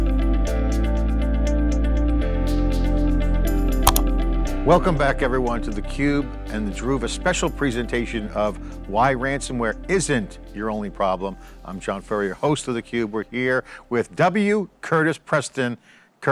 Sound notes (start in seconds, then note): 3.8 mouse clicks